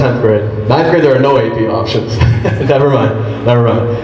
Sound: chuckles

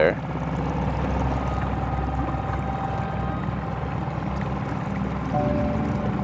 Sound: boat spluttering; somber music

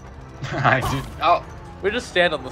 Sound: giggling

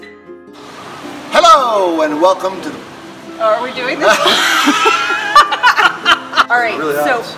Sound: laughter

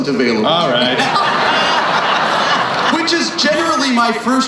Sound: crowd laughs

